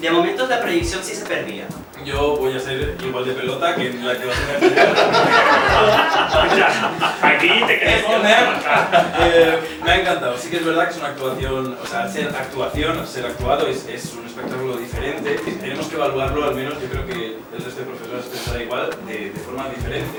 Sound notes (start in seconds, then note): 5.3 laughs